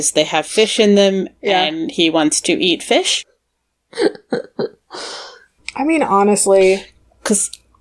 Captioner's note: chuckle